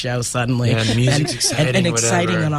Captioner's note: interviewer laughs